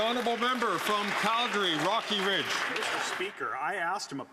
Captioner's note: some Applause